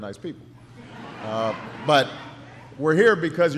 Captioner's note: laughter